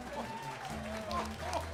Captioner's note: laughter